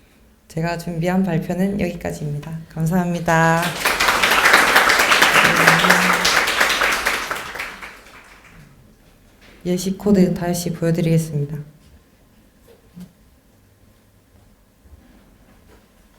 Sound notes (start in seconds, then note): 3.2 applause